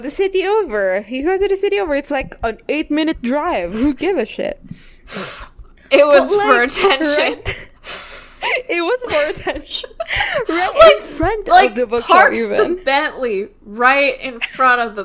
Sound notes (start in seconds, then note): 5.7 laughs; 9.0 laughs